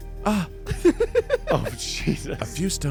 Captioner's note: laughs